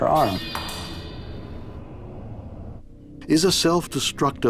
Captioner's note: knife clatters